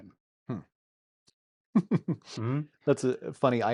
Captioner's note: laughs